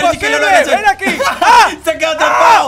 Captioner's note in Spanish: Grita